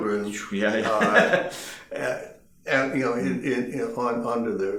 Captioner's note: laughing